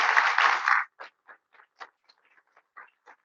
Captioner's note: audience clapping